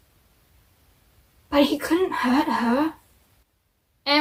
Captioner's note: mocking voice